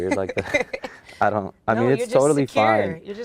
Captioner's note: laughs